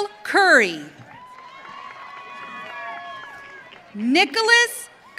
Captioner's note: audience cheering